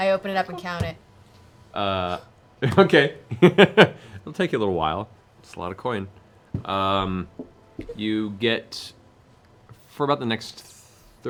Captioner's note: laughs